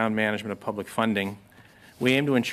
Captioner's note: speaking French